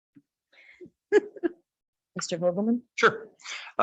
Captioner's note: laughing